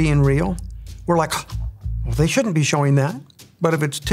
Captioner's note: gasps